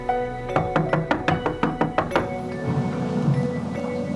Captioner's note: loud knocking